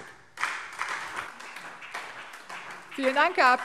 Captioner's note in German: Beifall SPD